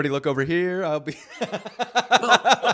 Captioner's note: laughs